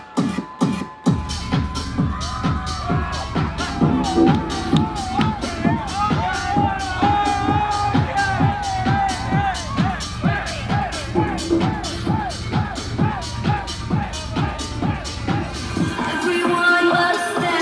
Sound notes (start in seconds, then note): 4.7 crowd cheers; 4.7 upbeat music